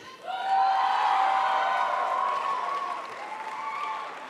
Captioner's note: crowd applauds